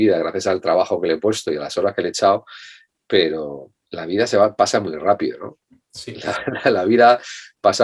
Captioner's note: laughs